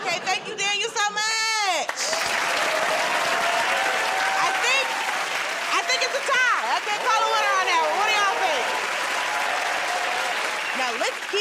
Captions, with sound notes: -Okay. Thank you, Daniel, so much. [ Cheers and applause ] I think it's a tie. I can't call a winner on that. What do y'all think? [ Cheers and applause ]